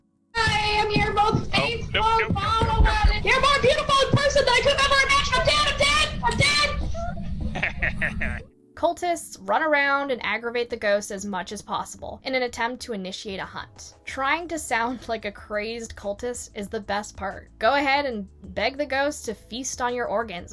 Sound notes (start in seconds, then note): 7.0 laughs